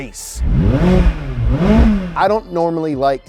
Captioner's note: engine revving